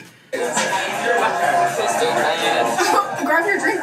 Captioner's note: people chattering